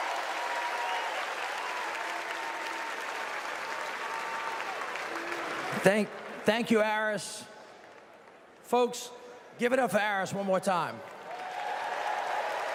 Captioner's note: cheers and applause